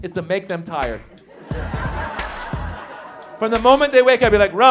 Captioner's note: audience laughs